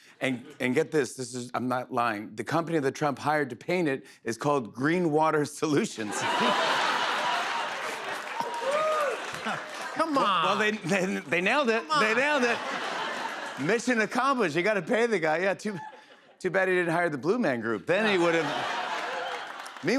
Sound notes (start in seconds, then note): 6.1 laughter and applause; 12.7 laughter; 17.9 laughter